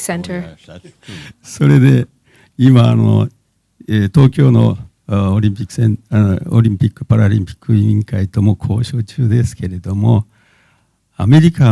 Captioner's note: speaking japanese